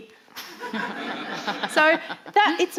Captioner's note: audience laughing